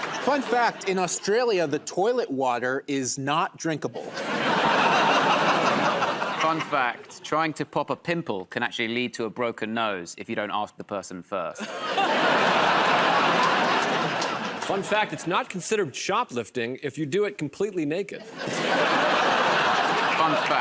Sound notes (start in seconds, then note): 3.9 laughter; 11.6 laughter and applause; 18.2 laughter